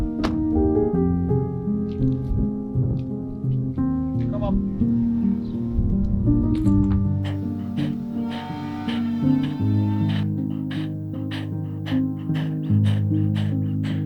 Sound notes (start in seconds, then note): 0.3 door closes; 7.6 power tools in background; 11.5 dog panting